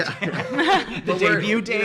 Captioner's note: laughing